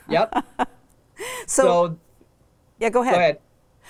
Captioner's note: chuckles